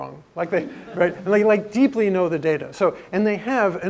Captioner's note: laugh